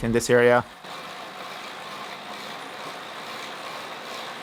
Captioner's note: cycling sound